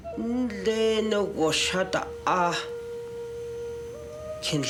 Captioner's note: speaking navajo